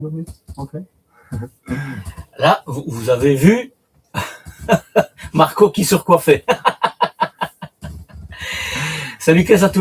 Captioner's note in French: rires